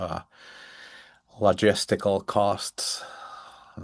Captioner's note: sighs